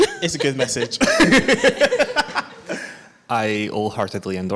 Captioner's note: laughs